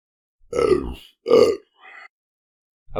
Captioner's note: burp